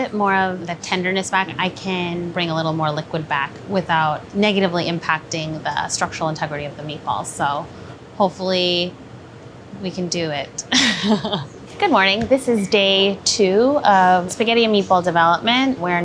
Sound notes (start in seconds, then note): 10.7 laughing